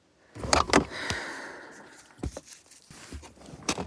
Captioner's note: sighs